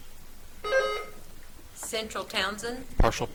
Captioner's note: buzzer trills